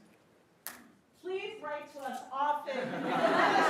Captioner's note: attendees laughing